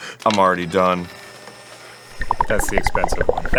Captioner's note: mechanical whirring